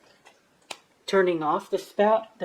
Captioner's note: clap